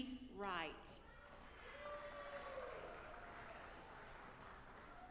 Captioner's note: audience applauding